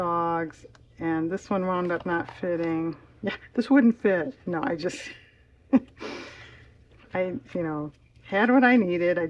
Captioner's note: laughs